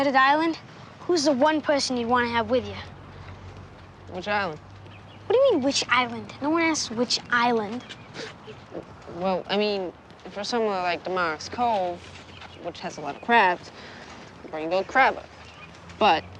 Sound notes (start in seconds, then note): 7.6 scoffing